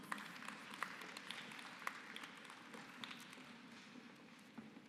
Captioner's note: applause